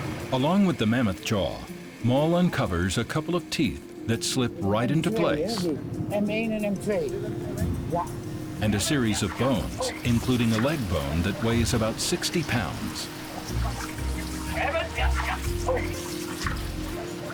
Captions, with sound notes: Along with the mammoth jaw, Mol uncovers a couple of teeth that slip right into place. And a series of bones, including a leg bone that weighs about 60 pounds. [speaking Dutch]